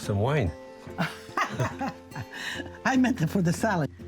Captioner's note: Lidia laughs